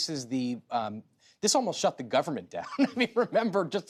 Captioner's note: laughs